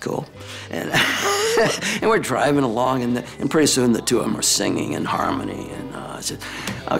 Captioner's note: laugh